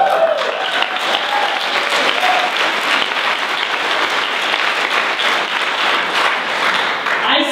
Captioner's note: applause